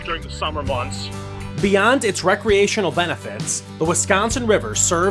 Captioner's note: voiceover